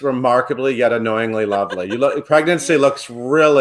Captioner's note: laughs